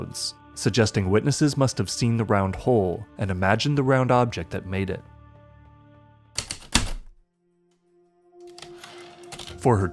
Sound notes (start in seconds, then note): 6.4 heavy typewriter keystrokes, typewriter return slide